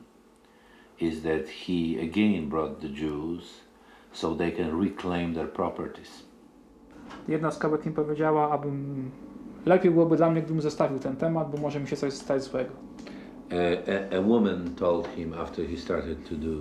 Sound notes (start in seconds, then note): 6.5 speaking Polish